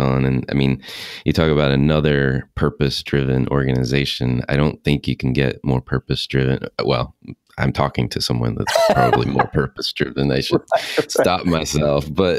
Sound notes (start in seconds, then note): 8.6 laughing